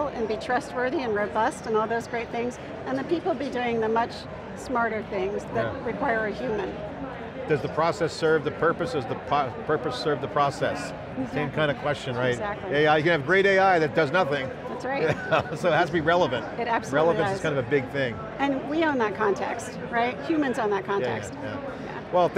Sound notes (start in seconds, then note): 15.0 laughs